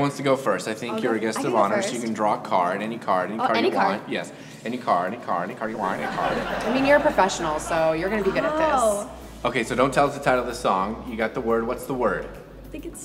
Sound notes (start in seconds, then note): 5.7 audience laughs